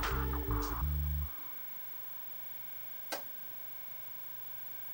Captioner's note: light buzz from mechanism